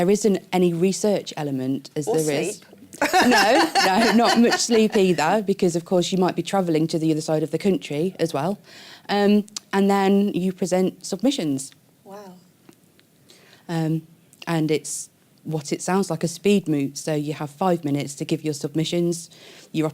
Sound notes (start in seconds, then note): 2.8 laughs